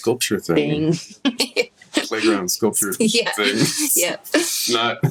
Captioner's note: laughs